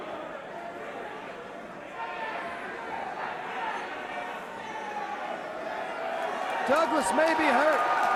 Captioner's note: crowd chatter